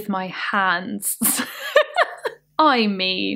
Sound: laughing

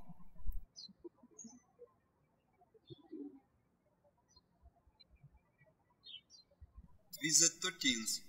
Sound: birds chirping

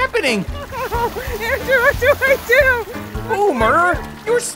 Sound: laughing

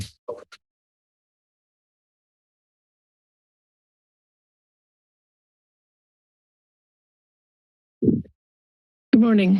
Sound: silence

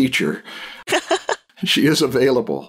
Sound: laughter

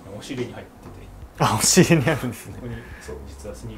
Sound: laughter

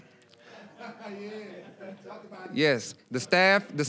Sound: laughing

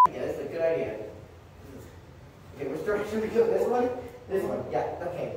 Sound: none

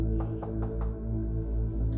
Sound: the door is clicking

